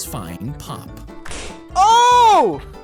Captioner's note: faint popping